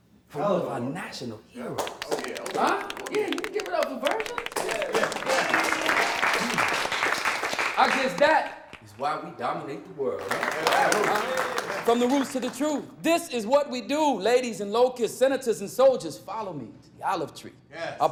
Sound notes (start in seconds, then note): 4.7 applause; 10.2 applause